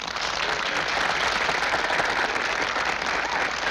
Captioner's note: applause